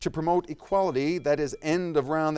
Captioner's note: timer dings